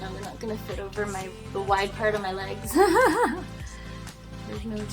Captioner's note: laughs